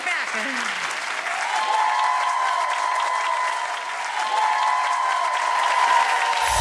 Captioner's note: audience applauds and cheers loudly